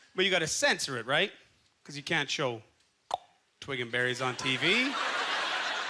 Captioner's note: clicks tongue; audience laughter